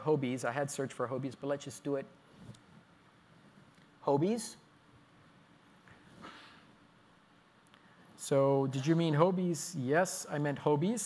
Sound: pause

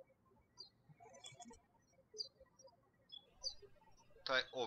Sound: birds chirping

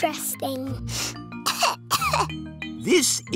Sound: sniffs and coughs

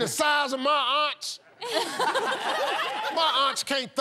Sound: laughter

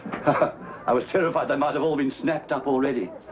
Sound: laughs

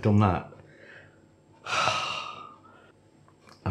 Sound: heartfelt sigh

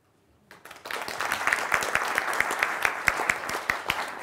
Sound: applause

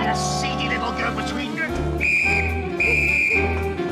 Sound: whistle blasts

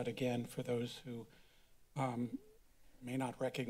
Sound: silence

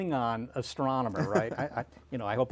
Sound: laughter

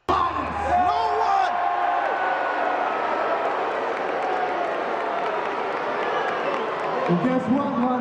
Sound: cheering

